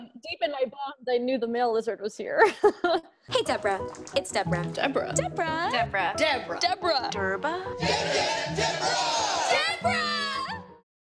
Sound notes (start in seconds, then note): 2.5 laughing; 8.0 crowd